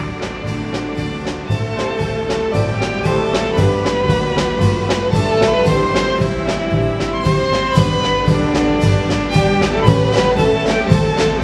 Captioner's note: applause